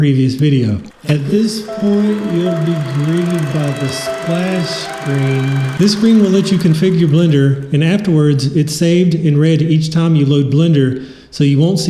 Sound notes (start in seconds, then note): 2.7 voice slowed down; 6.3 film reel fades out